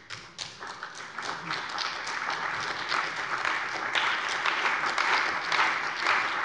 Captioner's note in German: Beifall bei der CDU